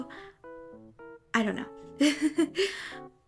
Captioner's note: giggles